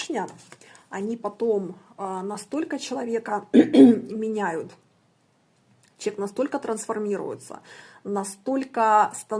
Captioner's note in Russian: откашливается